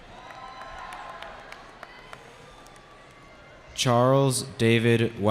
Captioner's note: cheering